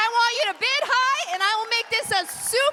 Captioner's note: applause